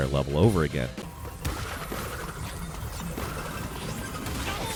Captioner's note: game sounds